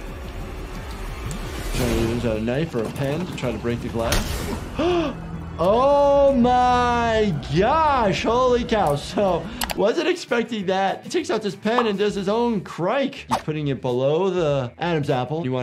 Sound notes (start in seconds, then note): 4.7 gasps